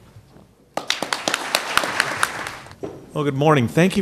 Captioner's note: applause